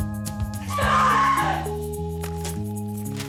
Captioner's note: screaming